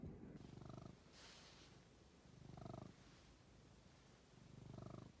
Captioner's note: purring contentedly